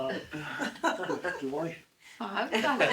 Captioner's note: laughing